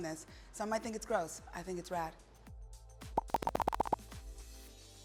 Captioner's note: seven pops